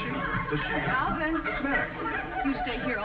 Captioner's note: audience laughing